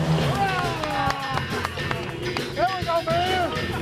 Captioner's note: cheering